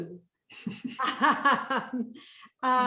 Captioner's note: chuckling